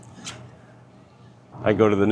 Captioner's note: metal clicks